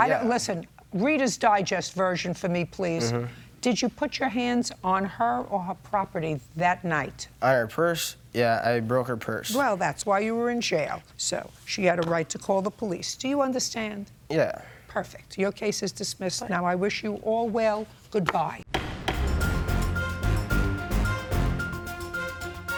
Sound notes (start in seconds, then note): 18.7 uptempo dramatic music; 18.7 gavel strikes block